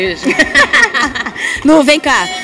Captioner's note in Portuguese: risadas